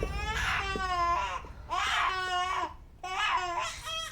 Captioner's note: baby crying